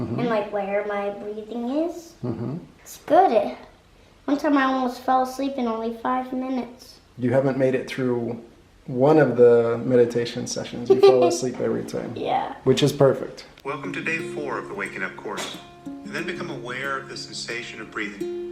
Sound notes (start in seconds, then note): 13.7 voice On Phone